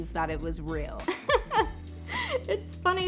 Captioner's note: woman laughing